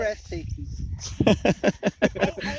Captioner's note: laughs